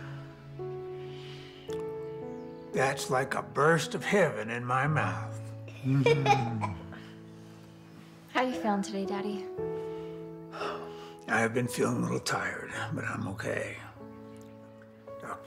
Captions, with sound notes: That's like a burst of heaven in my mouth. Mm. (Joslyn giggling) - How you feeling today, Daddy? - I've been feeling a little tired, but I'm okay.